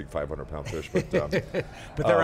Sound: interviewer laughs

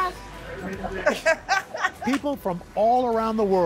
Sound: laughter

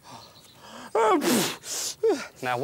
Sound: blows nose

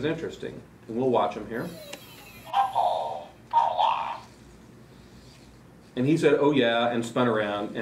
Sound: robot makes happy sound and says, “oh yeah”

